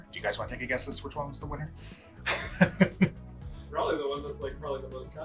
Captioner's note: laughs